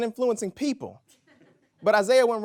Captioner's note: audience laughs